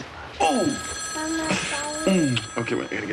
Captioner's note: phone rings; Janey cooing